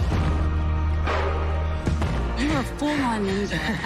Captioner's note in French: laughs